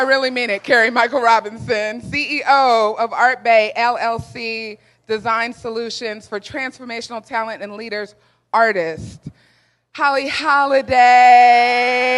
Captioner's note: applause